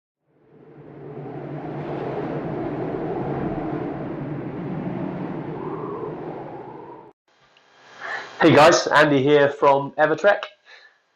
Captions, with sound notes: (wind) - Hey guys, Andy here from Evertrek.